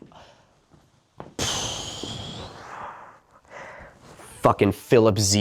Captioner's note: exhale